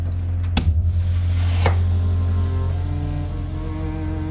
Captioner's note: door opens